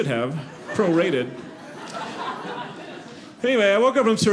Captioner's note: audience laughing